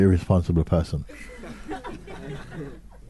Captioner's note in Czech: smích